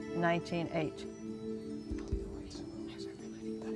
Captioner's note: whispering